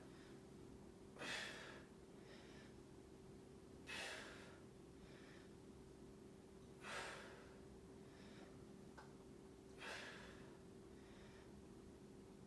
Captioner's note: inhaling and exhaling